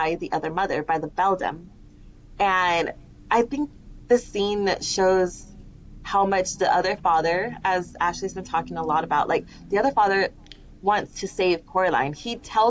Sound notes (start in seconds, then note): none